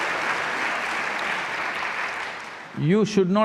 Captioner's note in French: Applaudissements